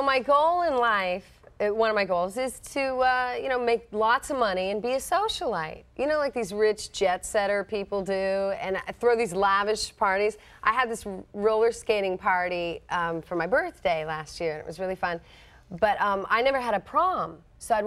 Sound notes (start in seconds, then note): none